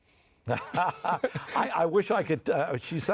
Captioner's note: laughing